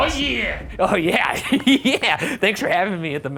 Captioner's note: laughing